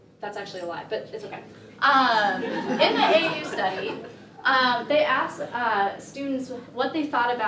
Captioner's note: laughter